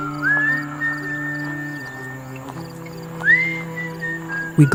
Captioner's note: person whistling